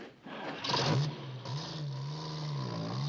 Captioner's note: truck driving away